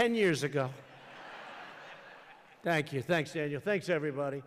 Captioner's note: laughter